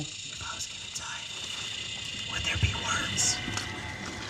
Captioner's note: eerie whispering